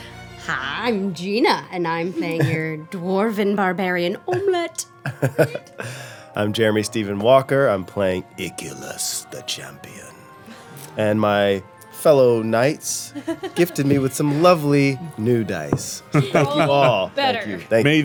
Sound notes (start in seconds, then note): 5.0 laughing